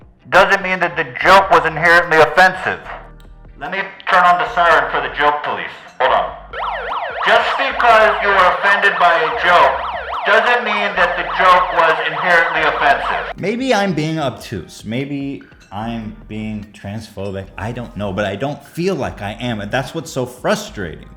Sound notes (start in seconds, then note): 6.4 siren Blaring